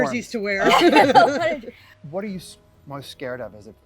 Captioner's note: participants laugh